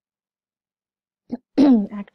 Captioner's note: clears throat